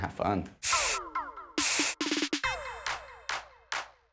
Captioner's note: paint spraying